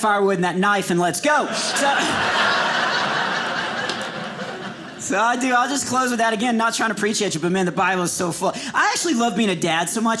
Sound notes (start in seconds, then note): 1.4 audience laughing